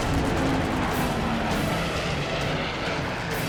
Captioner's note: gunfire